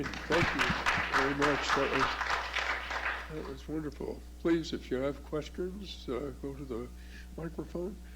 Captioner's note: applause